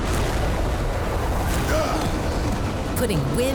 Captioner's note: grunting